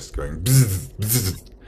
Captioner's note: bzzzz